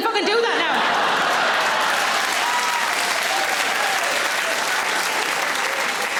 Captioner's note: audience laughing; audience applauds